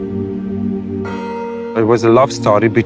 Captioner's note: bell chime